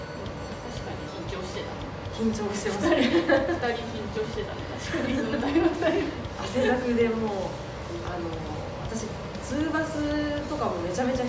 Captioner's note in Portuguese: risos